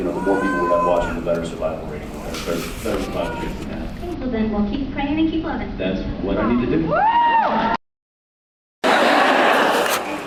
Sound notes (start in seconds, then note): 6.9 cheers; 8.9 laughs